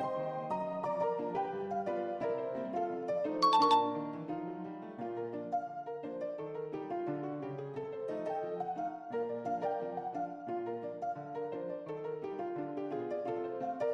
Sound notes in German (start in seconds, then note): 0.0 Klaviermusik; 3.5 Klingeling; 4.0 Klaviermusik